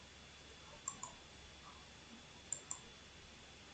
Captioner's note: clickity-click